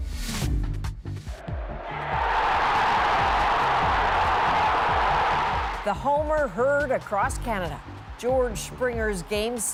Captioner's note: cheers and Applause